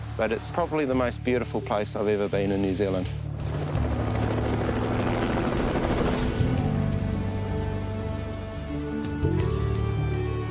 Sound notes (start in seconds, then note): 3.3 helicopter thrumming; 6.5 light music